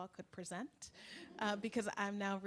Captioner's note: laughs